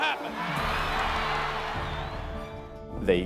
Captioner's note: audience cheering